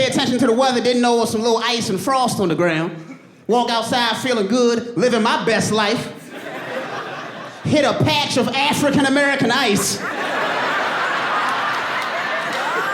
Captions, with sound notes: Didn't know there was some ice and frost on the ground. Walked outside feeling good, living my best life. Hit a patch of African-American ice. [AUDIENCE LAUGHING]